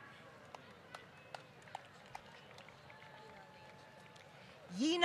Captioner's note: applause